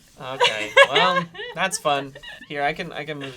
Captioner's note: laughs